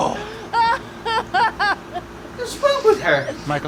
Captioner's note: amanda crying or letting her emotions go i think